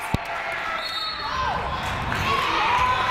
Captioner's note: whistle blows; crowd clapping